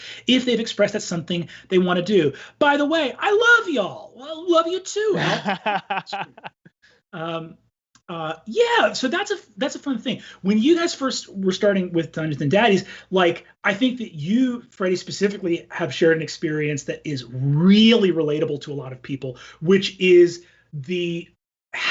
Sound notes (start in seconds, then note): 5.1 laughs